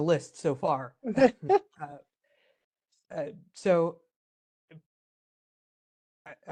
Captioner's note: laugh